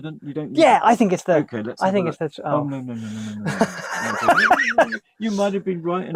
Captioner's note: laughter